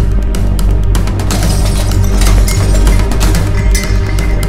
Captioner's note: The clinking sound of utensils